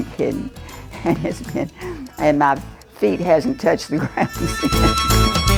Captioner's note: chuckles